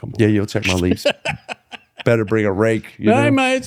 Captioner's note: laughter